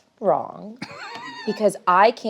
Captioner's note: laughs